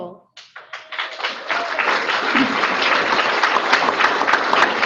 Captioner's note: audience applauding